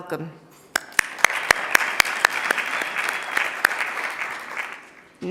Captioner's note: audience applauding